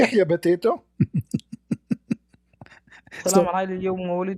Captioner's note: Ketawa